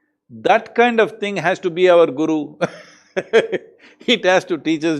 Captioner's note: laughs